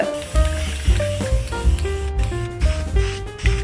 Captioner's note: spray paint hisses; jazz music continues